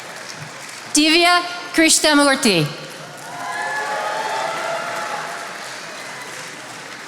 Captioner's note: attendees applauding